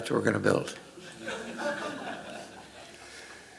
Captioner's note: laughter